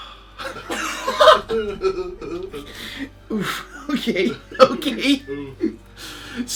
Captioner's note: laughs